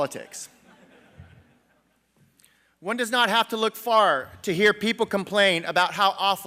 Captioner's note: laughter